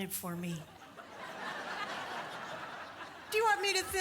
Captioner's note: audience laughs